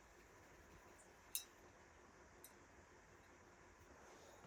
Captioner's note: ding